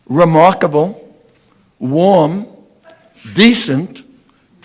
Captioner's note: none